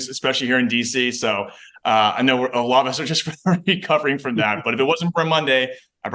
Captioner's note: chuckles